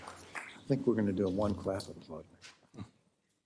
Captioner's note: applause